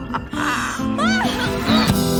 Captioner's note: manicially laughing; scream; gasp